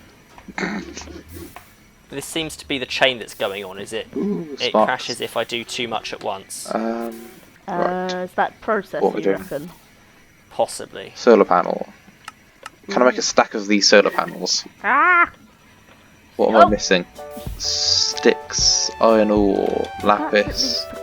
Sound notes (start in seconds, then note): 0.2 laughing